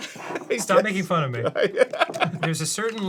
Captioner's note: arin laughs, wasn't going to do that